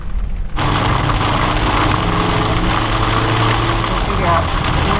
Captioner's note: engine roaring; rain splattering